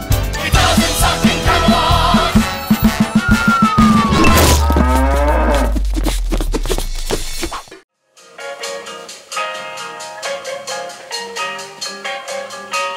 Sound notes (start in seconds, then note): 2.1 whistle fading; 4.3 cow mooing; 6.3 air swishing; 8.2 light jazz music